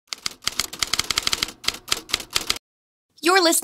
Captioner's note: typewriter clicking